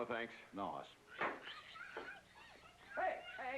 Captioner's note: pig squealing